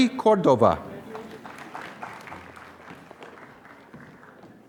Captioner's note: applause